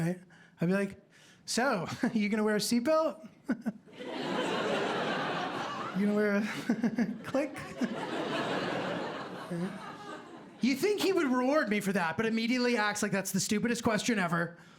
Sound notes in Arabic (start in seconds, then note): 3.5 ضحكة خافتة; 3.5 ضحك; 6.4 ضحكة خافتة